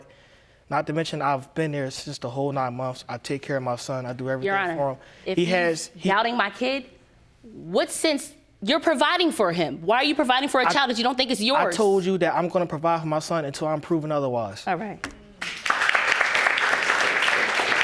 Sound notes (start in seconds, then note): 15.4 audience applauding